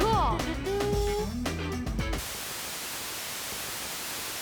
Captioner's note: <i> hums fanfare</i>